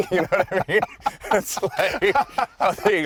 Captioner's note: laughing